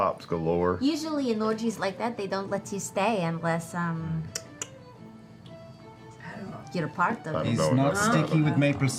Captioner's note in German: schnalzt